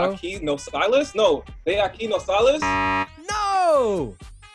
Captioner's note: speaks in foreign language